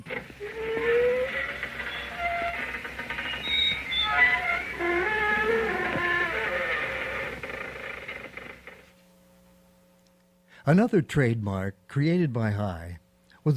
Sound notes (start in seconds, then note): 0.6 door creaking; 3.2 metal squeaking